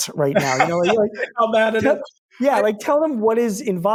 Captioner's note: laughs